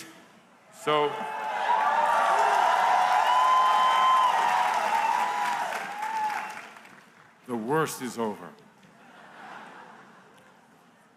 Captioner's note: cheers